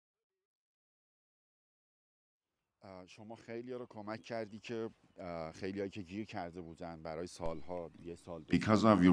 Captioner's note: Speaking Farsi